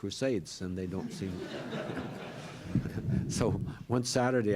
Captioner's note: laughter